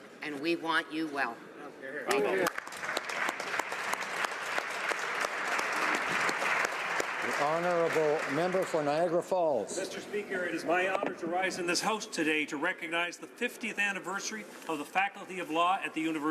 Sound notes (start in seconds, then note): 8.8 applause